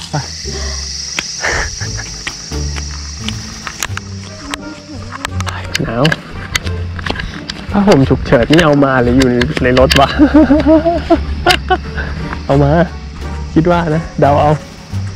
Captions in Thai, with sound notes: 555 *เสียงหัวเราะแบบสะใจ* หนาว ผ้าห้มฉุกเฉินนี่เอามาหรือว่าอยู่ในรถวะ 55555 เอามา.. คิดว่านะ เดาเอา